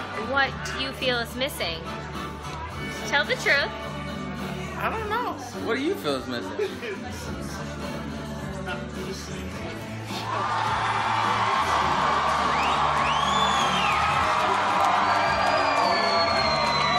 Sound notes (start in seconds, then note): 10.2 cheering and whistling